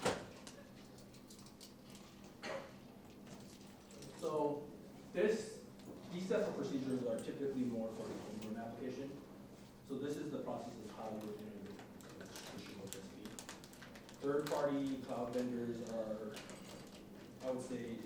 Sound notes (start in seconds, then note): 12.0 crinkling of wrapper